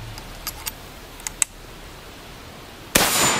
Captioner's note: gun cocking; gun bangs